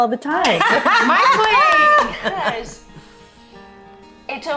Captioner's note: all laughing